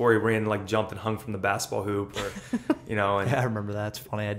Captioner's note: laughter; laughs